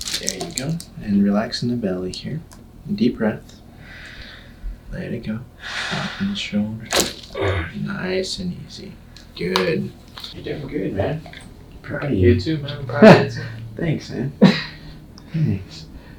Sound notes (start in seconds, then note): 6.9 loud crack